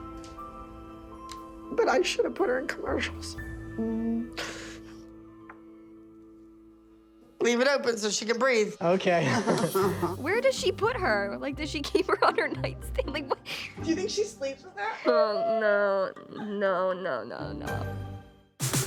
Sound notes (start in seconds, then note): 1.0 tearfully; 9.3 Abby laughs